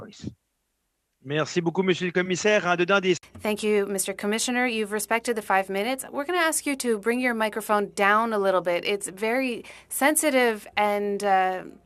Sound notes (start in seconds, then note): 8.8 speaking French